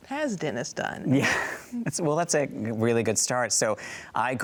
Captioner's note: chuckles